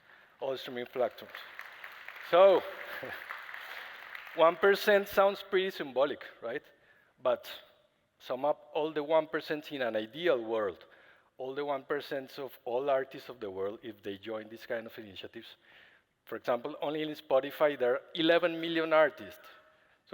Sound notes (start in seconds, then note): 0.0 applause